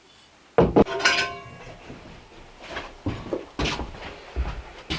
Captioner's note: pot clanging